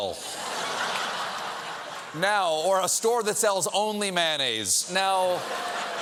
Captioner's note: laughter